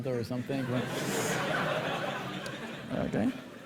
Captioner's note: laughter